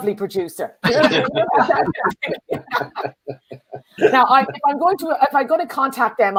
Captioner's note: laughter